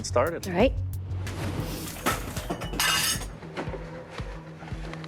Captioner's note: tense music; objects clattering